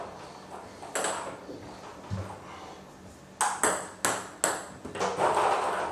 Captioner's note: balls ping pong hitting continues